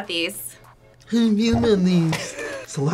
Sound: mockingly

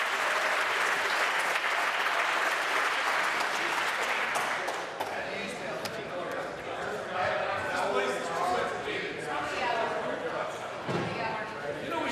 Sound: applause

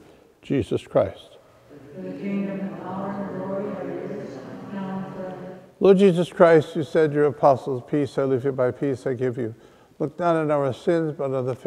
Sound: off microphone

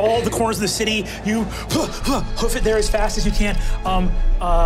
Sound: panting

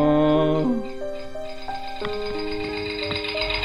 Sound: bomb ticking

